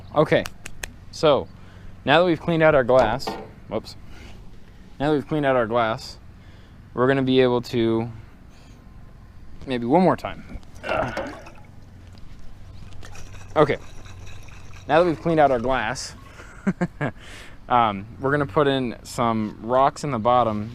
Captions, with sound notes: Okay, so now that we've cleaned out our glass. *drops lid* Whoops Now we've cleaned out our glass, we're gonna be able to... *sniff* maybe one more time... *sploosh sploosh* Okay, now that we've cleaned out our glass... *laughing* We're gonna put in some rocks in the bottom